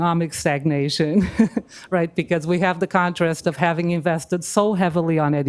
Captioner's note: laughs